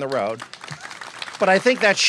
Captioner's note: applause